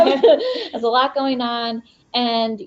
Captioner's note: both laugh